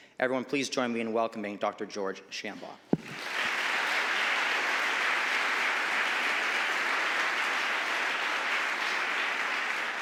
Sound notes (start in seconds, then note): 3.0 audience applauding